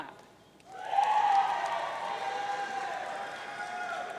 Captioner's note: audience cheering